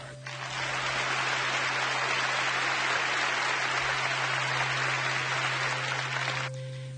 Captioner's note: unsettling music; audience claps